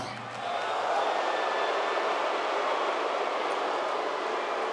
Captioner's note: audience jeers